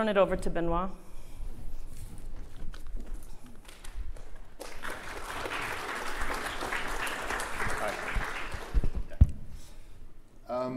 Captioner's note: applause